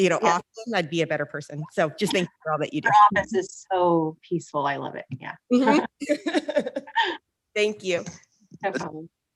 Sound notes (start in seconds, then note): 5.6 laughs